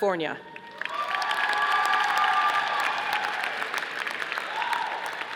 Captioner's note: audience applauding